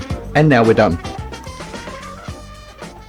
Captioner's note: three melodic chimes